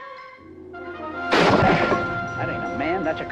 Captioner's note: smash